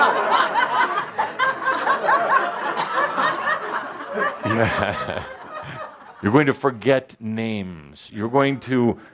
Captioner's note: laughter